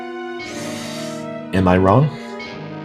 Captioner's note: reverse sigh number one